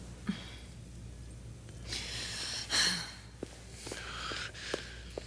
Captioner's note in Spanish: Jodie suspira